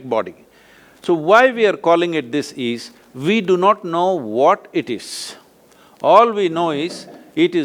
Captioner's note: laughs